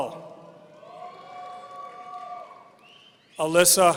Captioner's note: audience cheering